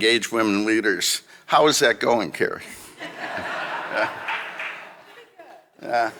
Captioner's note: audience laughing